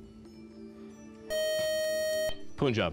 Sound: time-out buzzer

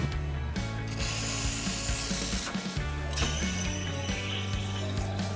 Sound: upbeat music; coffee maker hissing

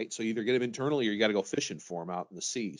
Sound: none

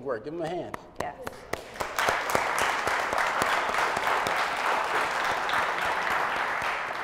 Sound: applause

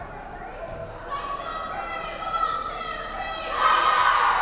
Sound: players chanting

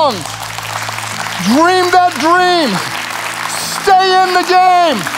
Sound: audience claps

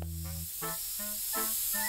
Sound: spraying

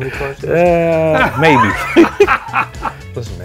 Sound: chuckles; laughing

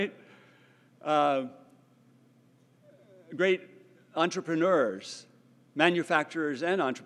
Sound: laugh

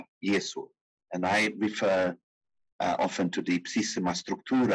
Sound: speaking in foreign language

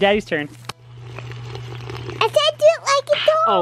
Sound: slurping

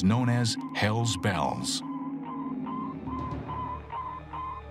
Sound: beeping

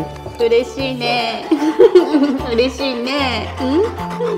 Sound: laughs

